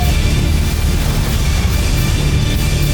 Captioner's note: sparkling whoosh; music fades